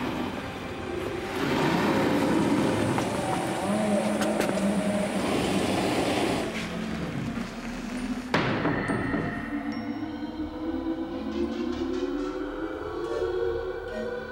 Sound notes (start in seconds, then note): 8.3 door slamming; 10.4 ominous music playing